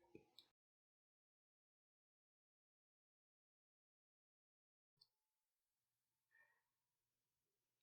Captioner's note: silence